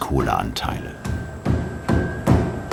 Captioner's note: light knocking